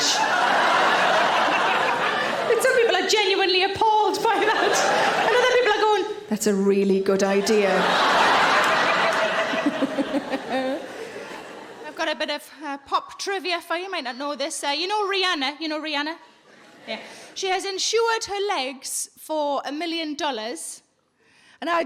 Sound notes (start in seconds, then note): 0.0 audience laughing; 7.3 audience laughing; 8.9 Sarah laughs